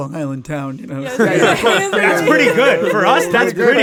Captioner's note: all laugh